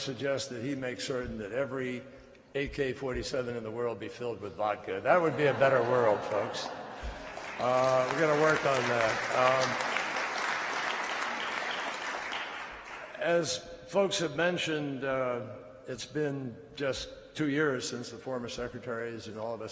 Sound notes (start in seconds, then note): 7.3 laughter; 12.6 applause